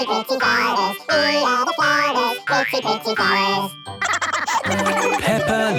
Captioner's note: laughter